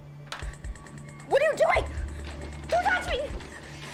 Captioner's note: bed rattling; equipment rattling